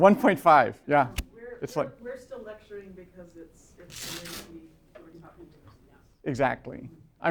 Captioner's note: voiceover